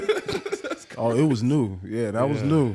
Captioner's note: laughing